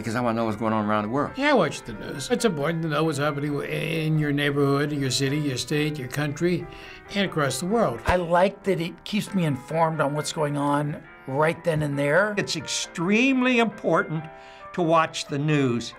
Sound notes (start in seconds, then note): none